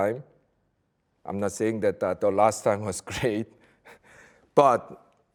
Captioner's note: chuckles